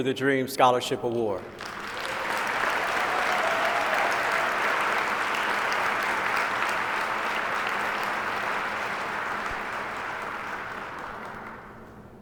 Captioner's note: applause